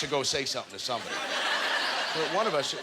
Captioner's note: audience laughter